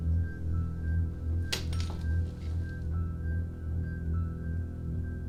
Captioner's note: suspenseful music continues; key rattling